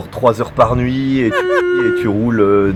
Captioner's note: cheers